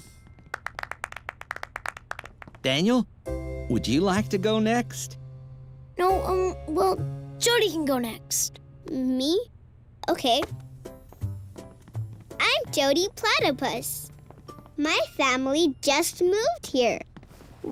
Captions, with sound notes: (crowd applauding) - Daniel, would you like to go next? - No, well, Jody can go next. - Me? Okay. I'm Jody Platypus. My family just moved here.